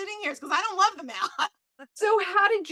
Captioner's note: laughs